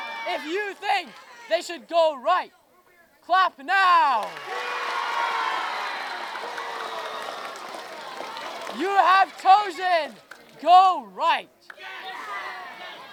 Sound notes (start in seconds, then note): 4.1 applause loud